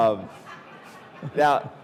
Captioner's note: audience laughing